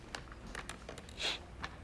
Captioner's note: sniffs